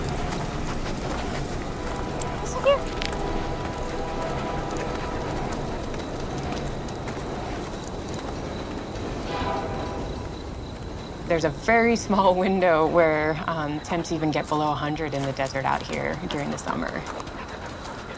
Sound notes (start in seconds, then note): 0.0 dog sniffing; 6.7 cricket chirping